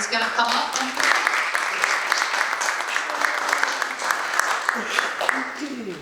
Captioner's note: audience applauds